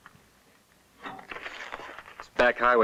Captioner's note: none